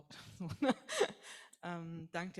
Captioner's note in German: lacht